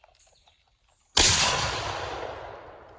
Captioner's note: loud shot